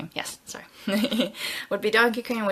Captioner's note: laughs